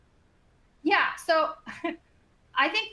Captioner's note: chuckles